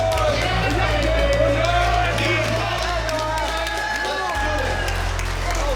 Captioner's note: cheers and applause